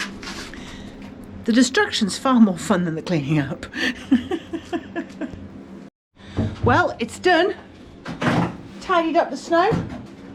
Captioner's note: laughs